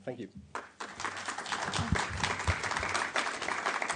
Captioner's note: applause